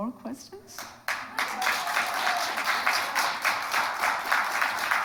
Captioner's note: audience applauding